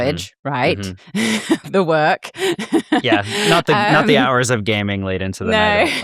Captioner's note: laughs